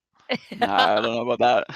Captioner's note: laughs